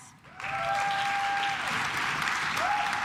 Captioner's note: claps